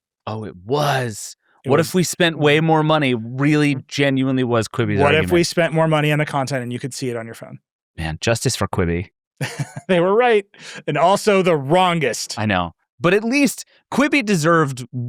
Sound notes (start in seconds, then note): 9.4 laughing